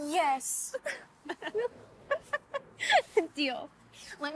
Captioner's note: both laugh